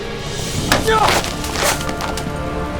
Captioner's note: gasps